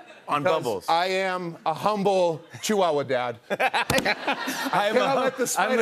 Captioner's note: laughter